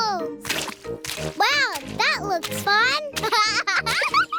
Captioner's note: laughs